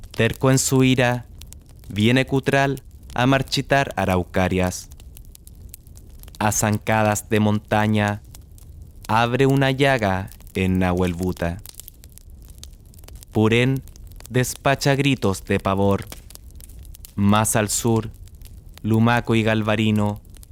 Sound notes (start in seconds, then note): 2.6 flame